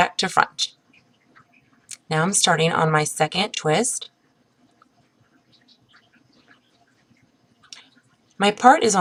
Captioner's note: pause